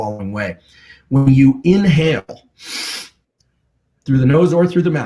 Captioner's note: inhales